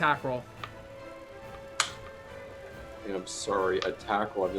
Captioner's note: dice rolling